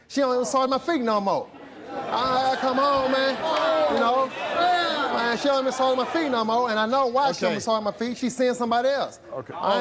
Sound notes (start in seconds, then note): 1.6 audience laughs; 3.6 audience boos